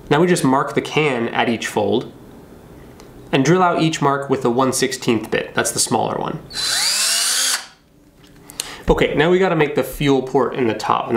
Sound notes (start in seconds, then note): 6.5 drilling